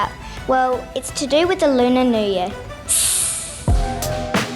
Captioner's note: hisses